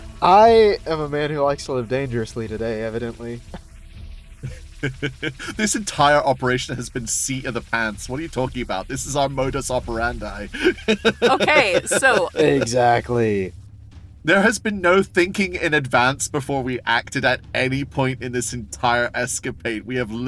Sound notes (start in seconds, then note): 4.4 chuckles; 10.5 laughs